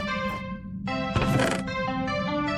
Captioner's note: chest opens